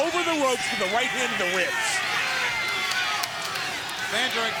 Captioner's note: crowd cheering